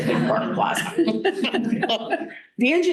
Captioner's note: laughter